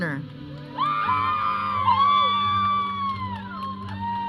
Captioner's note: audience cheering